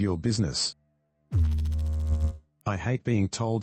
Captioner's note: electrical noise